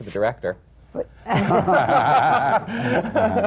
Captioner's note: laughter